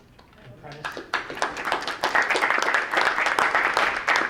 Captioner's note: applauding